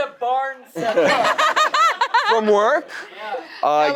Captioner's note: laughing